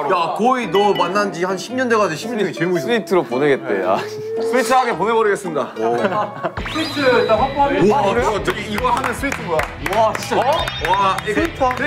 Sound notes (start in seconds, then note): 5.7 haha